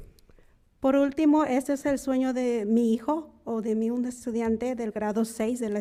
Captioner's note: speaking in foreign language